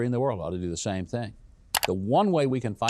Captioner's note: mouse clicks